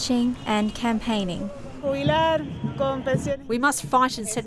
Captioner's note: speaking in Foreign Language